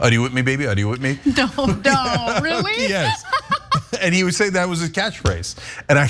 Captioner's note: laugh